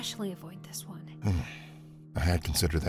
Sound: sighs

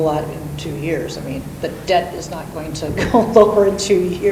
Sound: chuckles

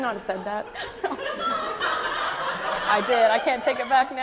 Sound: audience laughs

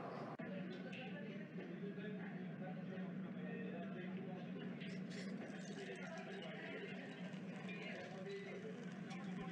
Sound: city street night sounds; subdued bar sounds

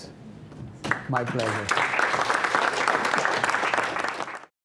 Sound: applause

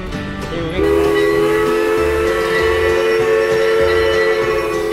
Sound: steam whistle blows

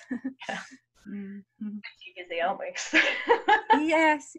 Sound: laughing

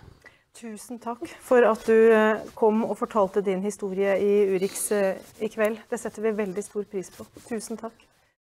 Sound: foreign news report

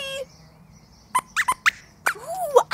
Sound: squeaks squeaks

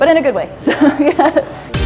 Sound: laughs

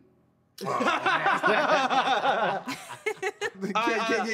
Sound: laughter

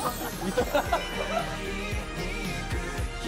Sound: all the members, gathered for a meal, laughing and talking

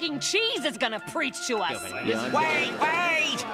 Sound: crowd murmuring

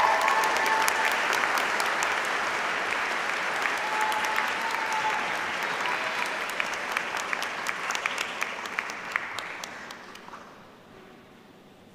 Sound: applause

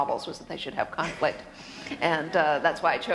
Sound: laughter

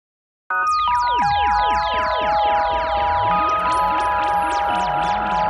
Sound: spacey sound effects

